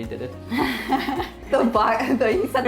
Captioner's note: laughter